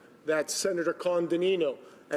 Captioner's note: speaking Italian